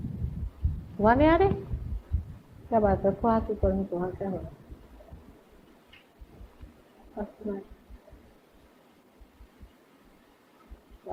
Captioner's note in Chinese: 母親用印地語對某人說話